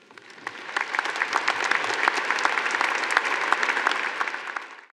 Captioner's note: audience applauding